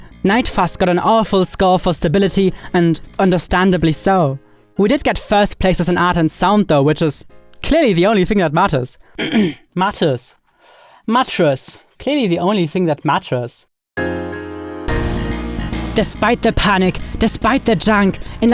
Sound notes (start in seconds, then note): 9.2 clears throats; 14.0 lively music